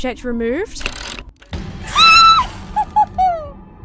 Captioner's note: orchestra stabs; squeals; giggles